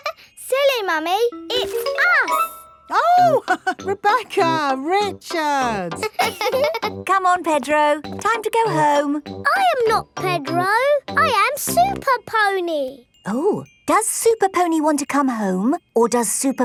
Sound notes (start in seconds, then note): 0.1 laughs; 5.9 chuckles; 6.0 both laughing